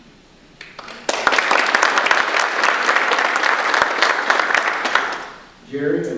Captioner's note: audience applause